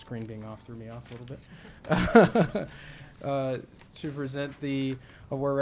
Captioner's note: laughs